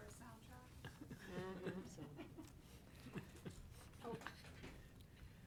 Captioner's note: board members chuckling